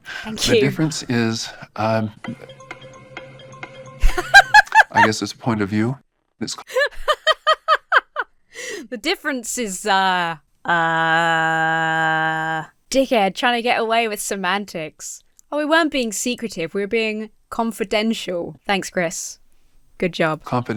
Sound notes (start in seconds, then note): 2.2 dramatic music; 4.0 laughs hysterically; 6.6 laughing